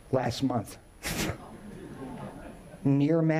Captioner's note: audience chuckling